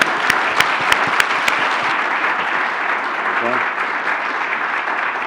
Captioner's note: applause